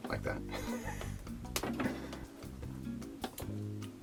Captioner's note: laughs